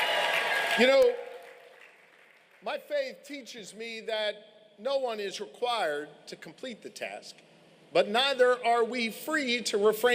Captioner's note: applause